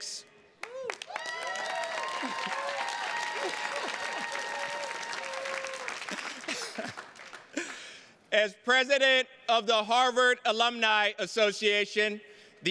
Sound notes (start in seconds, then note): 0.6 attendees cheers and claps; 0.8 chuckles